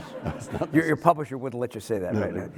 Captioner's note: everyone laughing